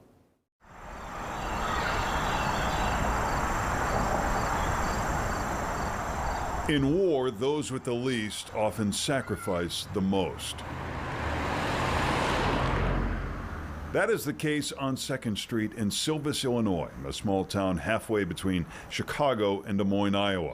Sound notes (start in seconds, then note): 5.2 chirping birds sound; 13.3 vehicle passing sound